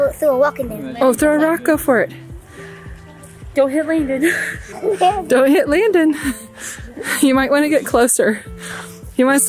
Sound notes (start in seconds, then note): 4.6 laughs; 7.0 laughs